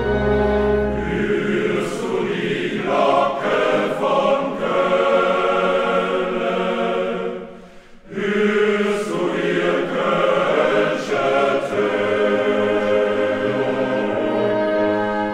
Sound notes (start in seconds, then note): 8.6 Bells of Cologne